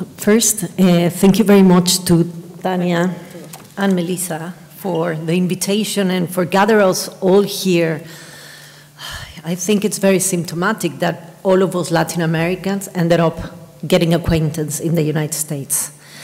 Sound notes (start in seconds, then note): 8.2 sighs